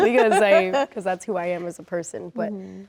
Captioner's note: laughs